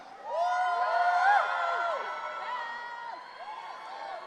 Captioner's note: audience cheering